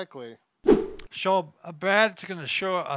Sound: air swooshing

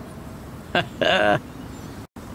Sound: laughs

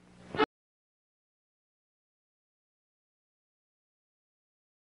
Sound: silence continuing

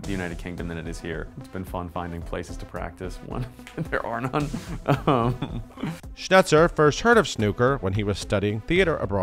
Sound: laughs

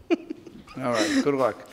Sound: laughs

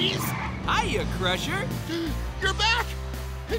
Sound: gasps

